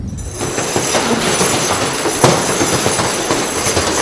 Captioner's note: door chains clanking